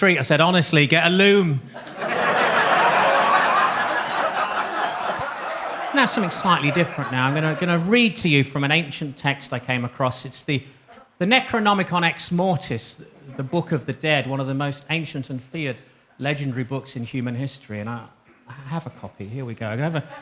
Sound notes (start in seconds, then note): 1.7 audience laughs